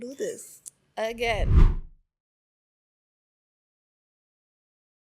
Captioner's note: audio whooshing